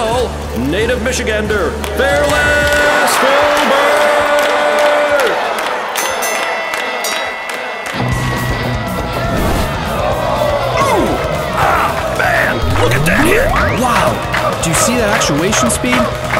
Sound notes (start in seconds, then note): 5.7 bell rings; 10.1 crowd cheering